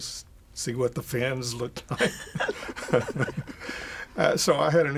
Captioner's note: both laugh